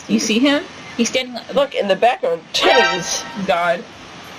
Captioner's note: SFX: Metal Gear Solid Alert